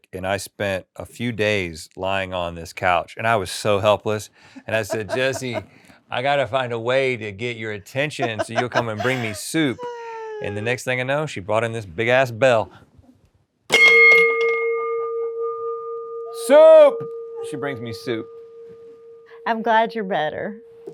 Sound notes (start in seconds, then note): 13.8 bell dings